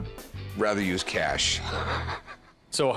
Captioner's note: laughs